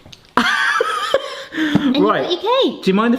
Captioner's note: laughing